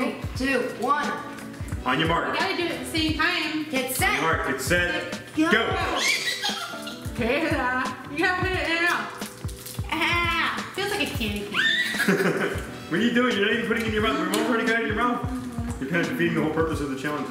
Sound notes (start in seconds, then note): 5.7 squeals; 11.4 squeals; 11.6 laughs